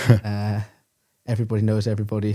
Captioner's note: laughs